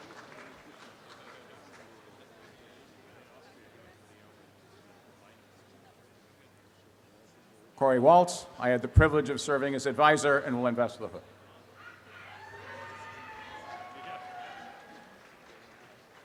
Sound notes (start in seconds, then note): 0.0 applause; 1.9 background chatter; 12.4 applause